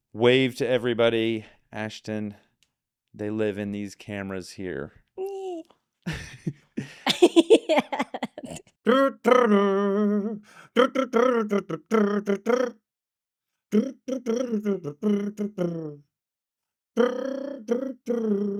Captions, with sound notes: Wave to everybody, Ashton. They live in these cameras here. Ooh. (laughing) Yeah. (laughing) (humming) (humming)